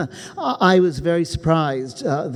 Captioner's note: chuckles